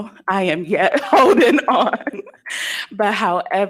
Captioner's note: laughs